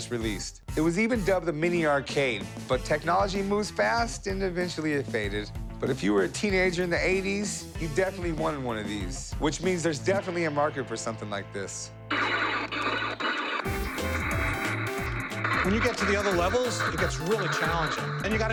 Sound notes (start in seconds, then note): 12.1 electronic trilling